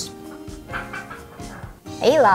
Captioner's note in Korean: 하하하하